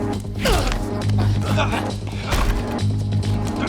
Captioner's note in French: Gémiments